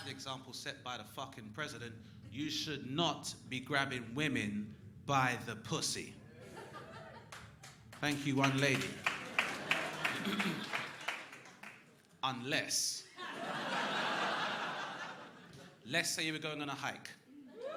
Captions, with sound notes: the example set by the fucking president, you should not be grabbing women by the pussy. (woman laughs) Thank you one lady. (crowd clapping) Unless... (crowd laughing) Let's say you were going on a hike,